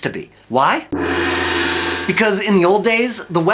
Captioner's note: gong clangs